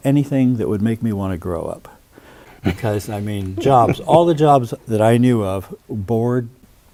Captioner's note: chuckles